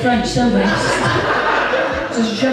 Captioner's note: audience Laughs